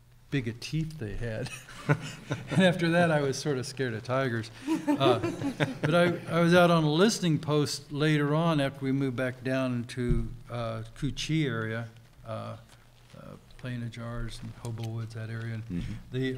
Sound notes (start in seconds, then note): 1.4 chuckles; 4.6 laughing